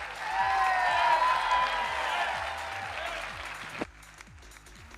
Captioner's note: audience cheering